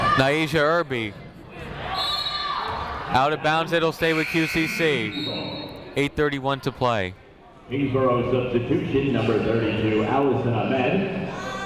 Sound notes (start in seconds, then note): 2.0 whistle tweeting